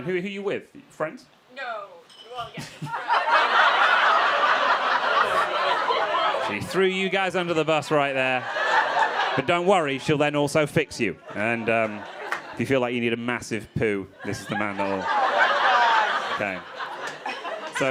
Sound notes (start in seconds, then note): 2.6 crowd laughing